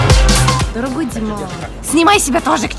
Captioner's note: imitates french